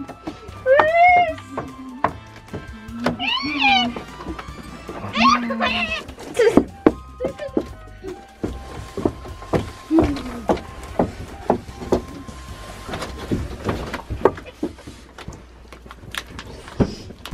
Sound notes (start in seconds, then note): 3.6 squealing